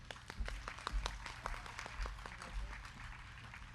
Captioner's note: crowd clapping